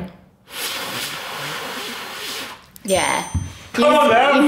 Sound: blowing

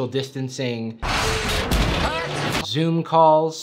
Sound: door slamming shut

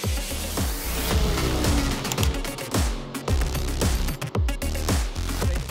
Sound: in-game car sound effects

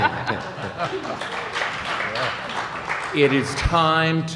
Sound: applause

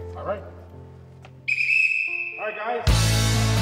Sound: whistle shrills

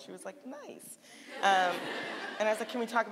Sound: audience laughing

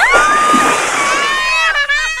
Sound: screaming; splash; laughing

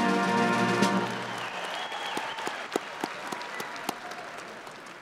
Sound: crowd applauding

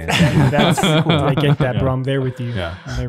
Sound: laugh

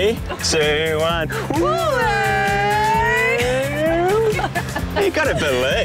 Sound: all mimic whale song; laughs

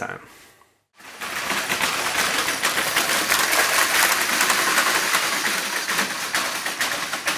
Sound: walking noise

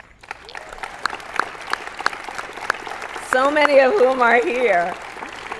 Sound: applause

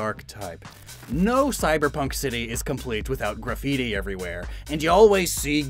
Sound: affects fake mafia accent

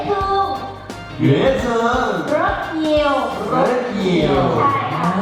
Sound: both speak Vietnamese

